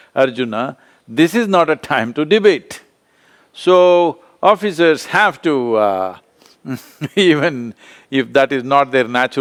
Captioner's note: laughs